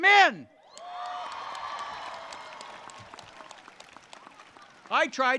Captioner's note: audience applauds